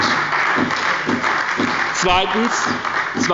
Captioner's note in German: Beifall bei der SPD und der FDP